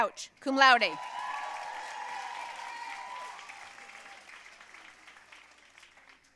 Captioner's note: audience cheering and applauding